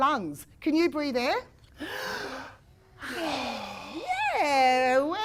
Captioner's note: sounds of a breath being taken can be heard